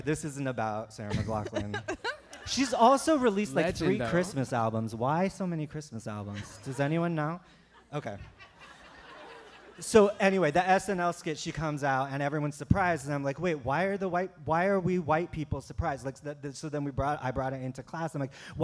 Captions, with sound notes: Anyway, this isn't about Sarah McLachlan. [laughter] She's also released like three Christmas albums, why so many Christmas albums, does anyone know? Okay. So anyway the SNL skit, she comes out and everyone's surprised and I'm like "Wait. Why are we white people surprised?" So then I brought it into class. I'm like